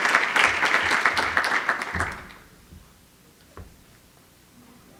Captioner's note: applause